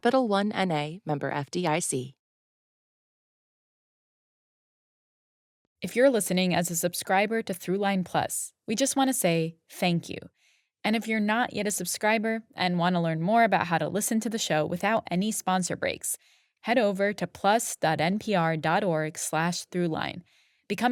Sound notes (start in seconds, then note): 14.4 speaking Korean